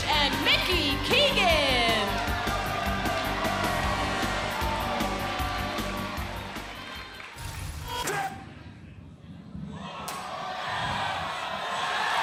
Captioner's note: crowd cheering